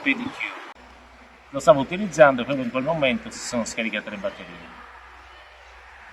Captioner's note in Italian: Applauso